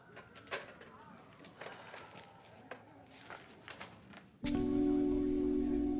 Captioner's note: people chatter indistinctly; sirens wail in distance; soft tense music